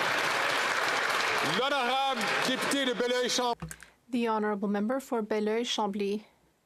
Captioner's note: some Applause